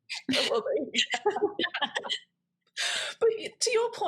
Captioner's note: all laugh